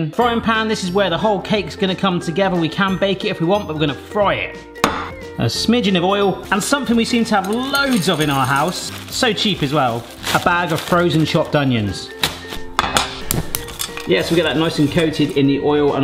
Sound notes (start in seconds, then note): 4.8 pan thumps; 12.8 pan clunks